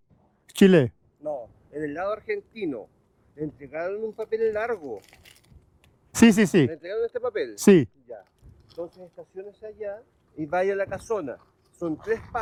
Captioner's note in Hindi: स्पेनिश में बोलते हुए